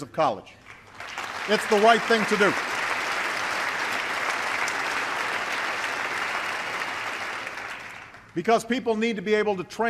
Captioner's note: applause